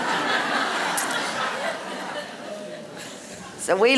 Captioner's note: laughter